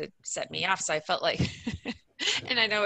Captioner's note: laughs